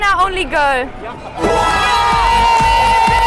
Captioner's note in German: Jubel, Applaus